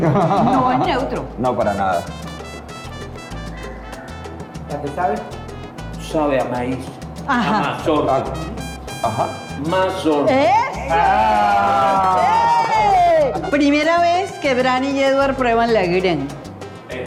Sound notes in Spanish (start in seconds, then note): 10.9 cheer